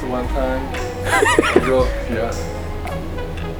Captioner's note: laughter